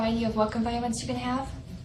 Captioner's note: whispers "Participant 4"